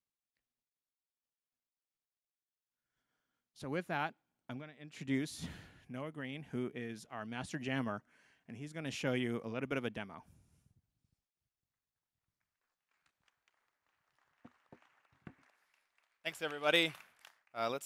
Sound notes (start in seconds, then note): 12.6 applause